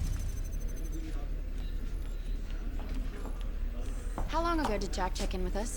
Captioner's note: agents chattering